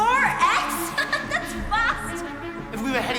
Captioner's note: laughs